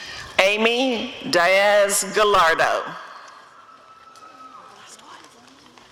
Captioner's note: applause and cheering